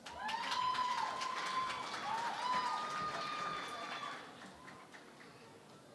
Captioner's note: cheering and Applause